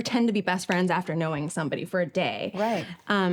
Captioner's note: none